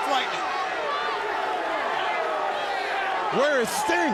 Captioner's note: crowd yelling